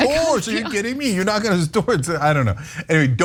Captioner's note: laugh